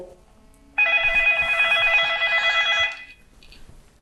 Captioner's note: phone ringing